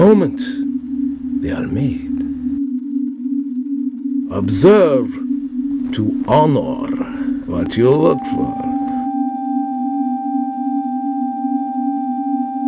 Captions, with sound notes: in the moment they are made. (sonorous synth music) Observe to honor what you look for. (high-pitched sonorous tone)